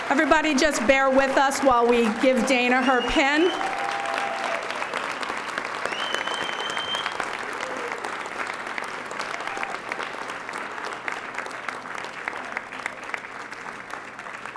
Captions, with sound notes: Everybody just bare with us while we give Dana her pin. (audience applauding)